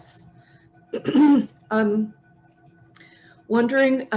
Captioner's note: clears throat